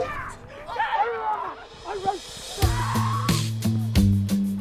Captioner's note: shouting; upbeat music